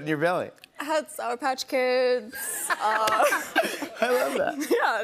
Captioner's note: laughter